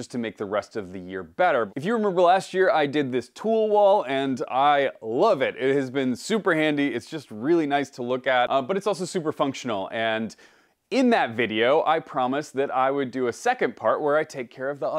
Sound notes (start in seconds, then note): none